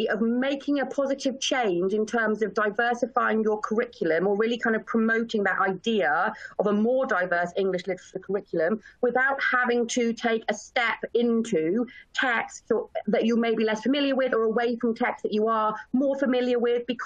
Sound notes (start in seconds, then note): none